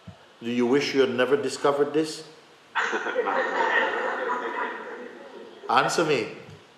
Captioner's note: laughter